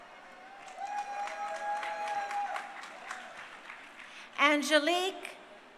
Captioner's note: crowd cheering